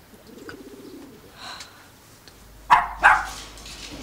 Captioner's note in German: Kläffen